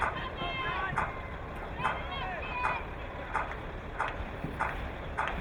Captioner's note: crowd clapping